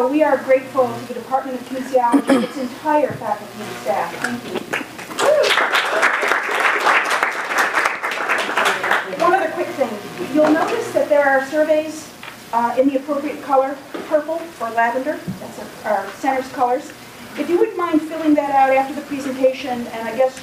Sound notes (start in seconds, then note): 8.6 applause